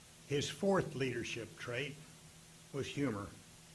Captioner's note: none